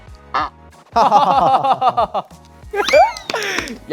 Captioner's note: laughing